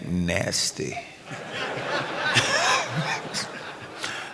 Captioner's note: laughter